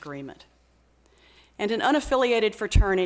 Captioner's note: none